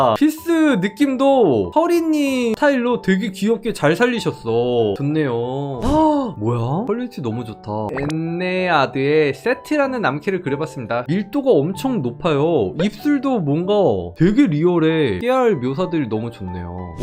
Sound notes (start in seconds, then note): 7.9 voiceover